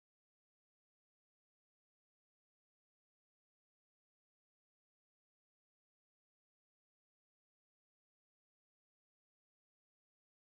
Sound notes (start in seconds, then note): none